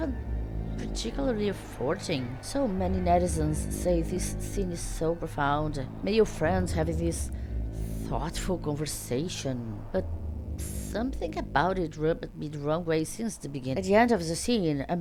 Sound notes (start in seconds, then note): none